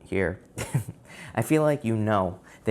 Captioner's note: laughs